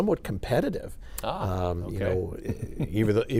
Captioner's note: laughs